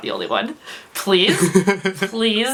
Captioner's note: laughs